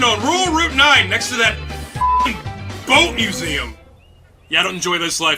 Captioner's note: beep